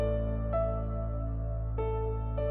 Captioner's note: none